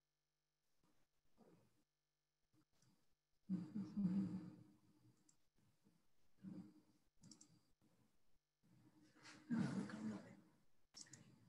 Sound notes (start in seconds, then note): 7.2 mouse clicks